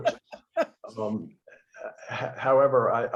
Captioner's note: laughter